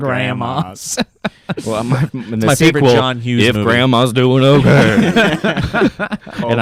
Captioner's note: laughs; laughs